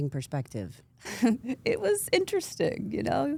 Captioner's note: laughs